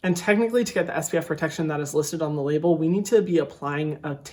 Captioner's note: none